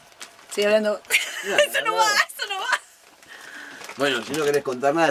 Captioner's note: laughter